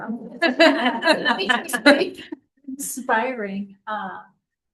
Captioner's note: laughter